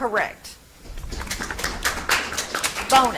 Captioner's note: audience applauds